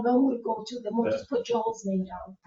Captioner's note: members chuckling